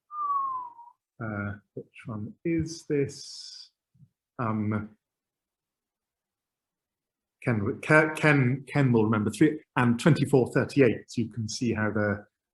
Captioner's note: whistles